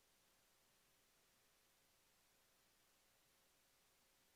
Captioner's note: none